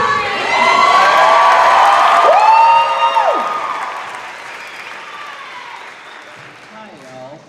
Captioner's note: cheers and applause